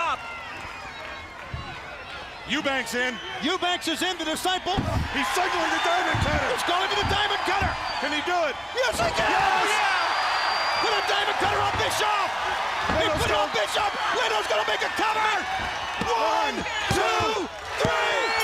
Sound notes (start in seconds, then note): 5.4 crowd cheering